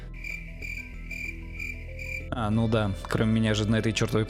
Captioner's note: cricket